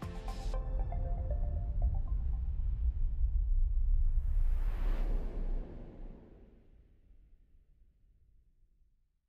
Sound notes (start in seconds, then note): 0.0 gentle upbeat music; 4.4 logo whooshes